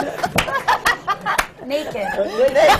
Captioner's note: laughter